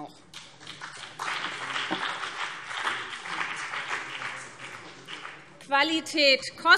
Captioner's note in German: Beifall BÜNDNIS 90/DIE GRÜNEN und CDU